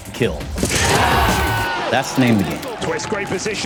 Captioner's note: cheers